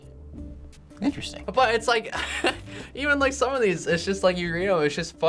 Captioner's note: chuckles